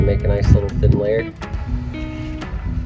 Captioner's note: scraping